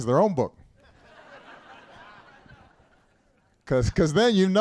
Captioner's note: laughter